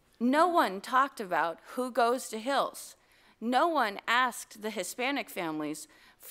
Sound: none

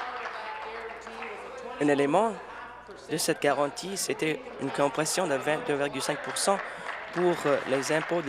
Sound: applause

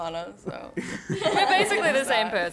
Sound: laughter

